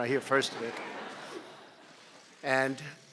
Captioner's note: laughter